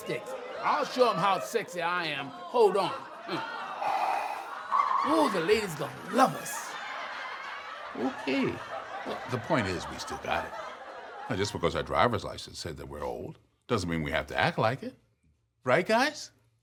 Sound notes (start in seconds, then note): 3.7 inhales; 6.8 audience laughs